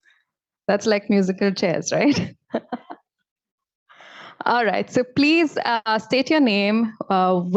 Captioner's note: laughs